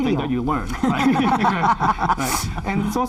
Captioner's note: all laughing